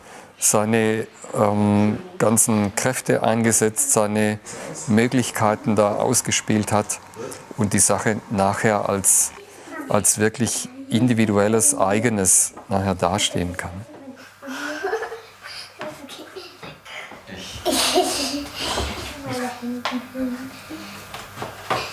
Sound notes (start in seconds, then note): 13.2 children's laughter and speech